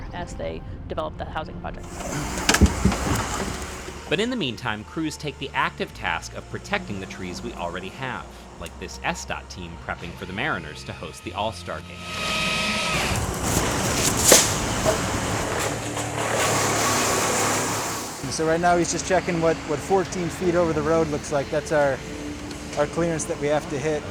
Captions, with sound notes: as they develop the housing project. But in the meantime, crews take the active task of protecting the trees. We already have, like this SDOT team prepping for the Mariners to host the All-Star Game. (chainsaw buzzes) -So right now, he's just checking (mechanical noises) what what 14 feet over the road looks like. That's our our clearance that we have to hit. (chainsaw buzzes)